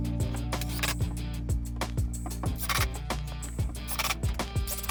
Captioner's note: drill whirring